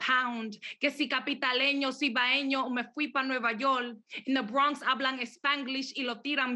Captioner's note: speaks Spanish